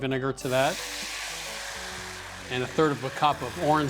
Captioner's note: sizzling